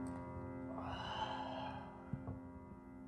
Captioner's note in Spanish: suspiro